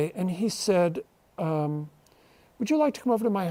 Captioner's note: none